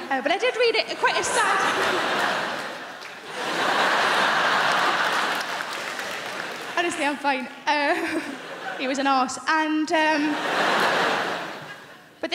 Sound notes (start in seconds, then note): 0.7 crowd laughing; 10.0 crowd laughing